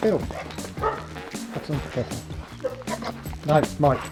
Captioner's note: barks